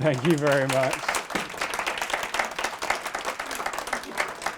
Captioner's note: applause